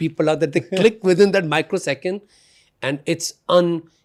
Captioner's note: laughs